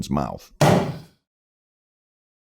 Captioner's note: explosive sound of burst balloon